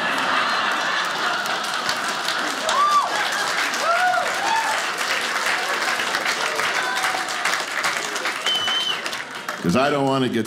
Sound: audience applauding

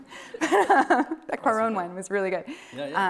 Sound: laughing

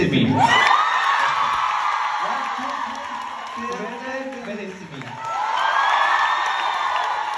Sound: ปรบมือ

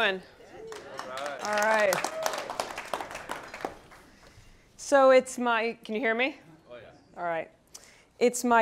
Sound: applause

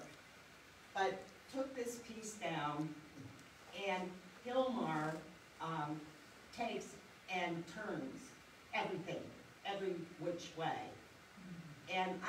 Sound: gasps

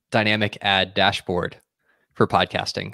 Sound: none

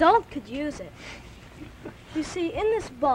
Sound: chuckles

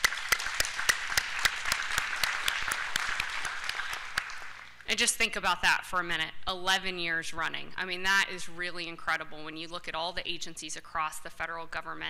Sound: applause

